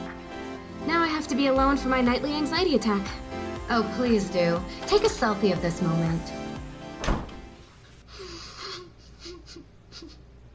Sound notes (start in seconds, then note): 6.9 door opens and closes